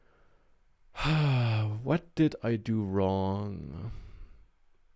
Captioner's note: sighs